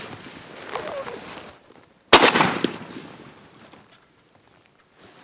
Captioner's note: loud gun shot